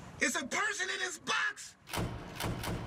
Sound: muffled voice

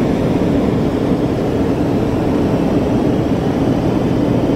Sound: engine rumbling continues

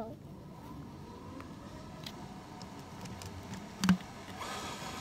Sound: motor revving

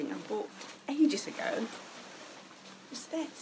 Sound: fabric rustles

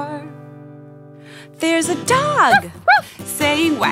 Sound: woof woof!

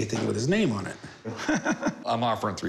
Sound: laughs

